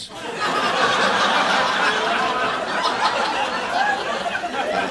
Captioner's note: audience laughing